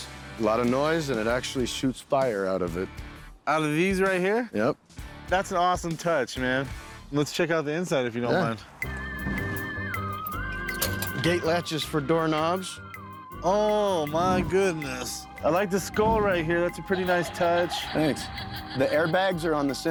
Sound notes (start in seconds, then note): 16.8 electronic laughter